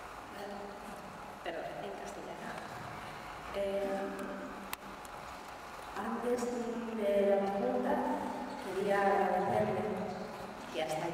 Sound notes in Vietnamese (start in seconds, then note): 1.7 Tiếng Tây Ban Nha